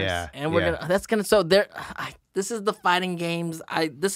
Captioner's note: he sighs